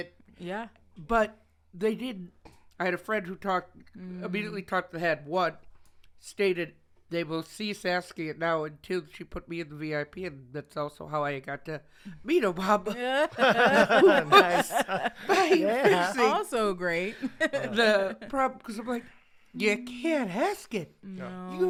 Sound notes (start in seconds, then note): 12.9 all laughing